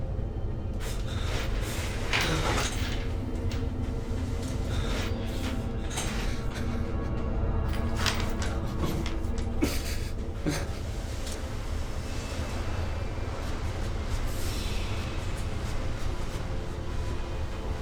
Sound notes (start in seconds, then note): 10.0 dramatic music; 10.4 crying